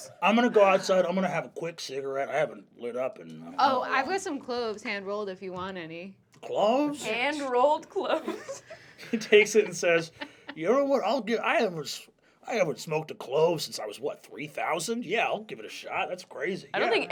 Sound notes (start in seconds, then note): 8.1 laughs